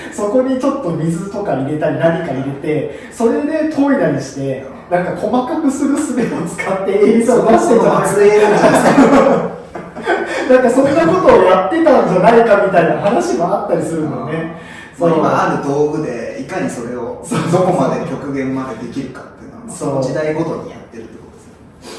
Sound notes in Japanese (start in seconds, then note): 8.3 爆笑